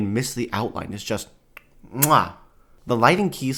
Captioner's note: kiss sound